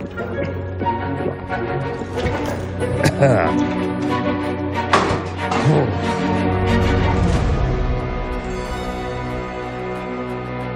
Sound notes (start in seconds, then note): 0.3 whimsical music playing; 2.6 coughs